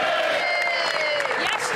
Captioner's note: some Applause